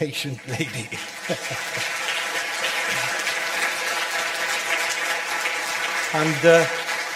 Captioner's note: audience applause